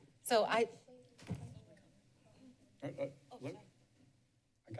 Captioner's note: background chatter